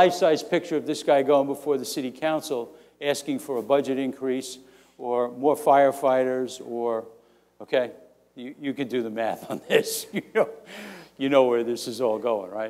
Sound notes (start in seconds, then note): 9.5 laughing